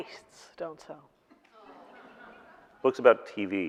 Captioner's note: audience laughing